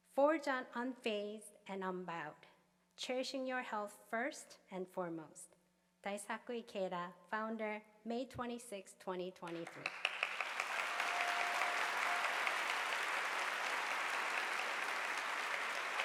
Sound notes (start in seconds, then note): 9.5 audience applauding